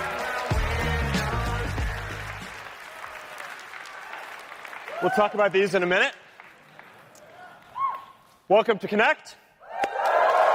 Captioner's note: cheering